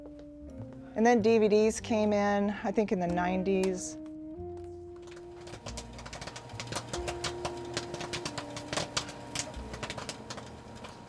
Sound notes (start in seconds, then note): 3.0 popcorn popping; 8.0 slow jazz music